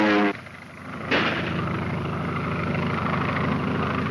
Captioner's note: gunshot; airplane engine roaring